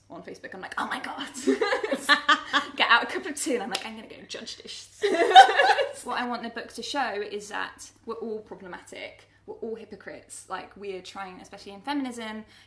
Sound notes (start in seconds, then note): 1.4 laughing